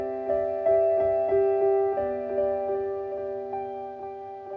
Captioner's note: rustling leaves